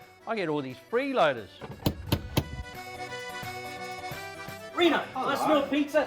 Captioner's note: door knocking